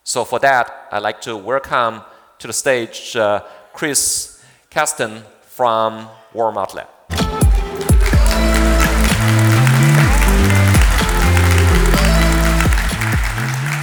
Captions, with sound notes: So, for that, I'd like to welcome to the stage, Chris Kasten from Walmart Labs. (upbeat music) (audience applauding)